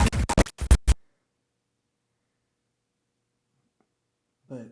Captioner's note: static crackling